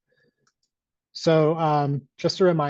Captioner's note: mouse clicks